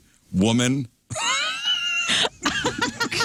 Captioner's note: laughing